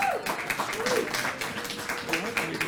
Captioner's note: applause